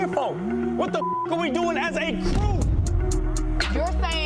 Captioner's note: beeps